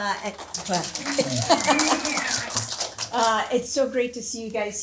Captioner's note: audience cheering